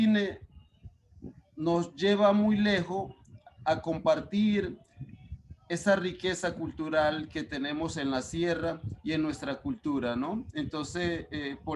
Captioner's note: speaking Spanish